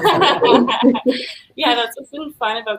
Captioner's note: laughing